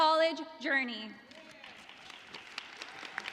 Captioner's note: applause